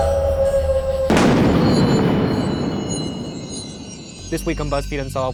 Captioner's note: ominous music; wolf howling; thunder clapping